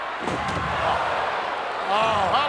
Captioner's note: body thuds